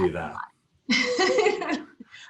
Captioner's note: laughs